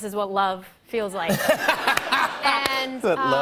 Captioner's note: laughter